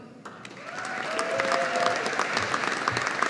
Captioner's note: audience applauding